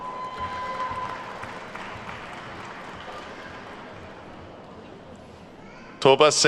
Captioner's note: attendees whooping and clapping